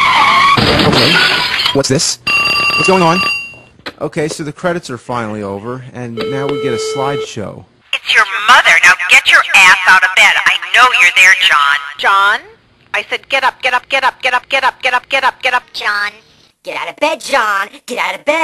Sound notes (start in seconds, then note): 0.1 crash!!!; 2.4 drrrring